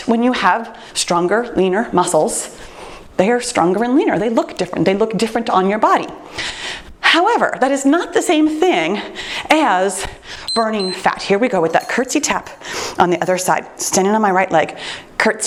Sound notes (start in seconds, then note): 10.4 timer beeps